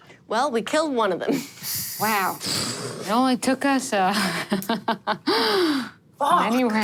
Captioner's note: laughs